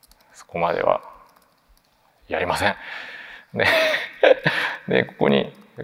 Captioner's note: chuckles